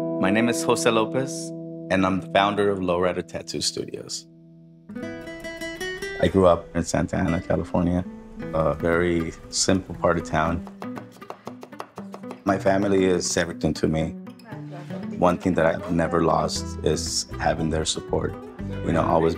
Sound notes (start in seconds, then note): 10.6 chopping